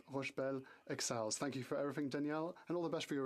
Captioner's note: speaking French